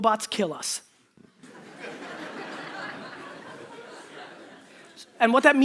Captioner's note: audience laughter